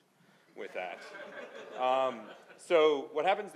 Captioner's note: laughing